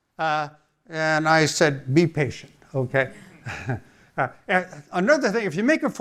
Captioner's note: chuckles